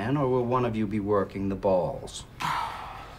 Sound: Lloyd Sighs

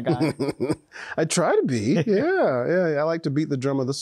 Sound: laughs

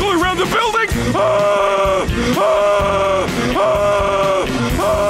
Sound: screaming

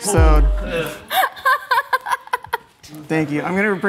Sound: laughs

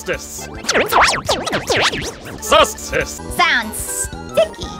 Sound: wacky talking

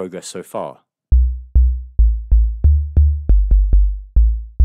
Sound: rhythmic tapping

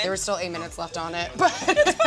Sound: laughs

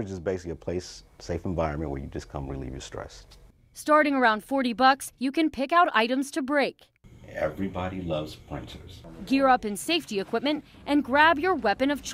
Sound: nat: crunch

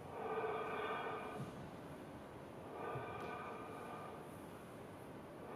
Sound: rhythmic breathing continues

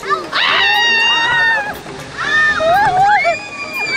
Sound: screams

